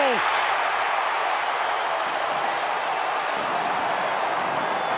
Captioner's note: cheering